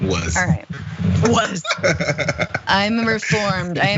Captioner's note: laugh